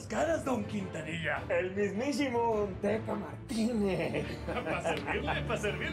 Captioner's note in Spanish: risas